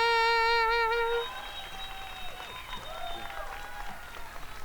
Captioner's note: crowd cheering